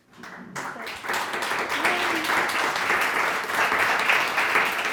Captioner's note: audience applauding